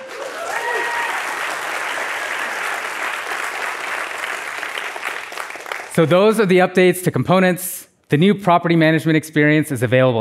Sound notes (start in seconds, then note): 2.4 applause